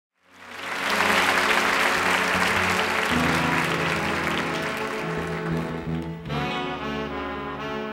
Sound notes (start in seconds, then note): 0.2 audience applauding; 5.2 mellow music